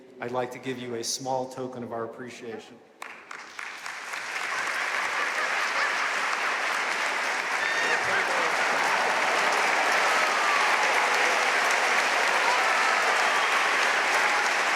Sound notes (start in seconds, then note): 3.5 audience applauding